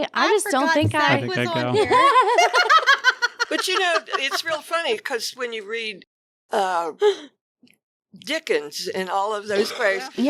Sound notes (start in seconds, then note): 0.4 laughing